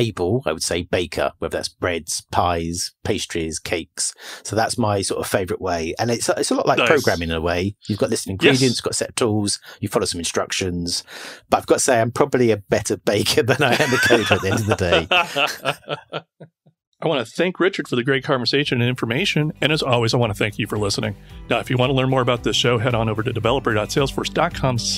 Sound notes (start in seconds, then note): 16.2 laughs; 17.4 laughing